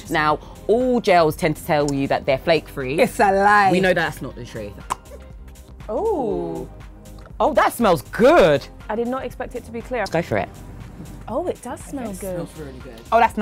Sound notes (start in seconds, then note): 4.8 bottle cap pops